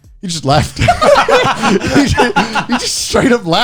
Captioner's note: laughing